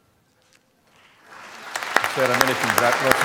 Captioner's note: applause